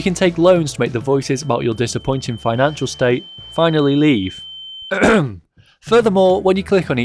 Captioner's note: clears throat